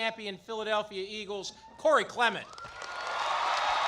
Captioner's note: applause